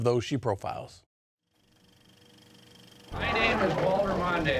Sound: sound of film rolling

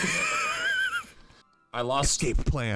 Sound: laughing

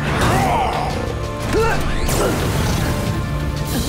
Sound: grunting

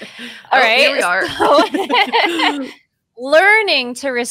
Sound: both laughing

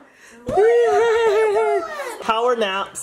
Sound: laughs

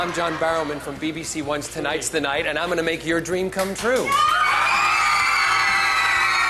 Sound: screaming

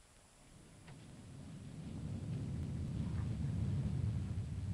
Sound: thunder rumbling

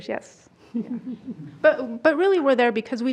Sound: group chuckles

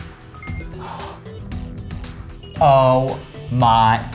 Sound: gasps

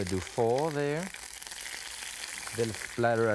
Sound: oil sizzling

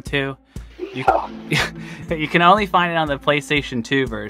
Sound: laughs

